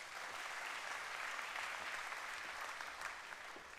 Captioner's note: applause